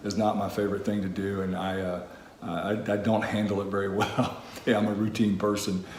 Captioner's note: laughs